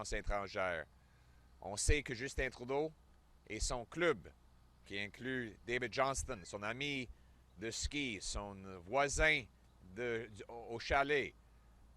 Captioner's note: French